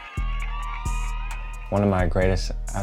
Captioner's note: crowd cheering